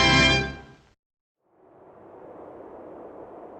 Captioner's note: wing howling